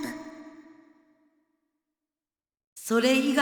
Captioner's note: silence